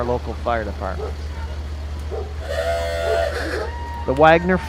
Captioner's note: tires screeching